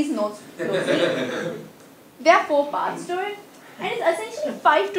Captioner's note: laugh